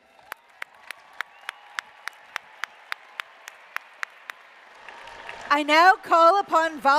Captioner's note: applause